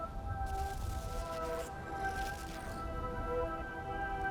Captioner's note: static rustling